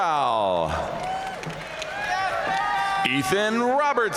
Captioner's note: audience cheering and applauding